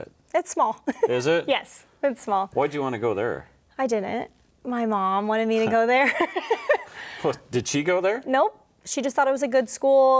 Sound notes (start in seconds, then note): 0.8 chuckles; 6.8 laughs